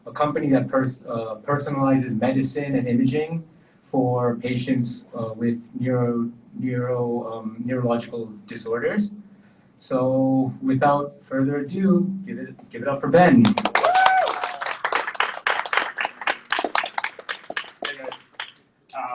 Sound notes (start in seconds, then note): 13.6 audience cheering